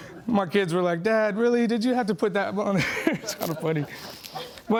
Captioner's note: laughing